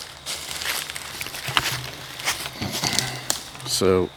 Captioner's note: walking, rustling